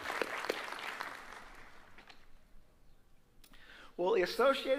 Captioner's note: applause